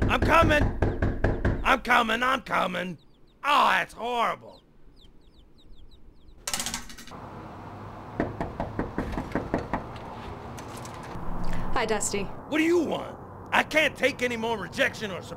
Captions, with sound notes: I'm comin'! I'm comin', I'm comin'... Oh, that's horrible! (knocking) HI Dusty. What do you want? I can't take any more rejection or